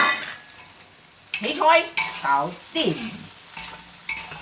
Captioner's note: Cantonese